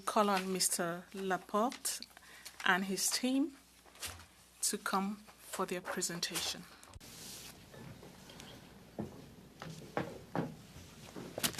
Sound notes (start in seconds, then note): 5.9 speaking French